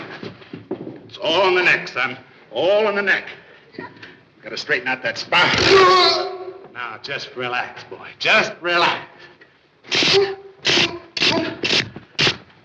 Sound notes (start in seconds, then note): 5.5 Junior groans; 5.5 cracking; 11.2 neck cracking